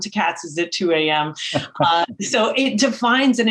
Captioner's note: laughs